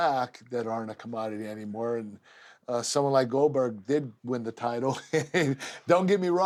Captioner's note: laugh